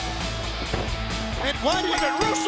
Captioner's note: bell dinging